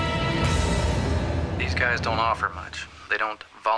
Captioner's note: on phone